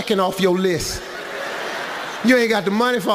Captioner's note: audience laughs